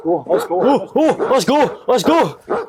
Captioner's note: dogs Barking